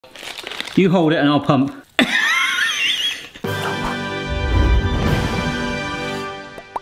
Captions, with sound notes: - You hold it and I'll pump. (laughing) (triumphant music)